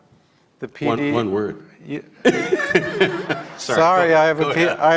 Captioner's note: both laugh